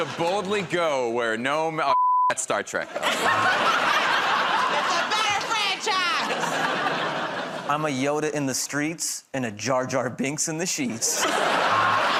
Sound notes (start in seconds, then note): 2.8 laughter